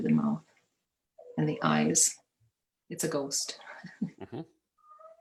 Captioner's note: chuckles